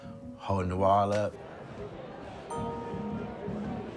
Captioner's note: people murmur